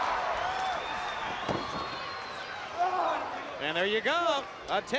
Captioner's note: crowd cheering